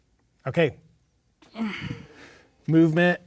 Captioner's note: groans